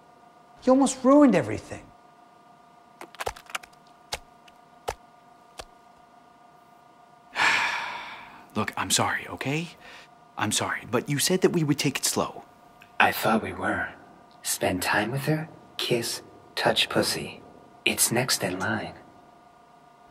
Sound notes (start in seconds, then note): 3.0 jiggling sound